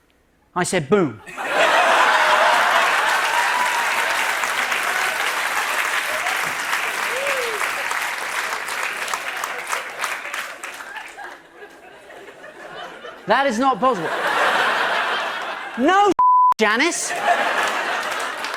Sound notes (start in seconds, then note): 1.2 laughter; 3.9 cheers and applause